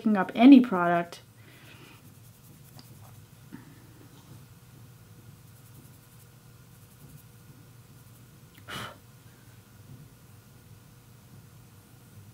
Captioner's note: silence